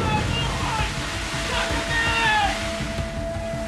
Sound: yelling

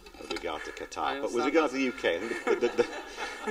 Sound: laughter

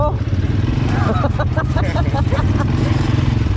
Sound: laughter

